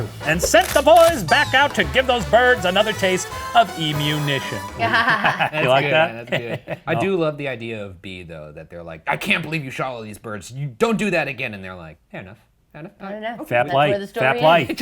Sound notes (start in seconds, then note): 4.1 laughs